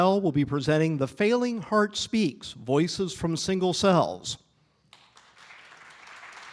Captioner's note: applause